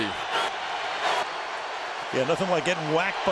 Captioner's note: crowd cheering